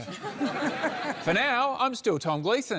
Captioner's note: laughter